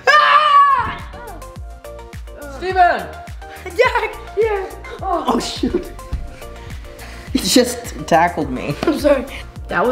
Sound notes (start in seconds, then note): 4.5 laughs